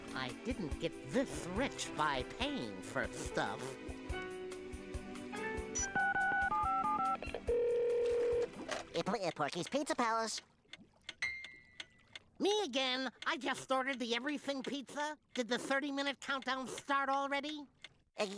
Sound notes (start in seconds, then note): 5.7 dialing; 7.4 telephone ringing